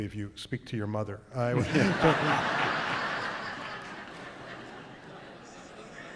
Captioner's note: laughter